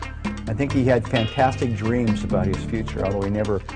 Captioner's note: voiceover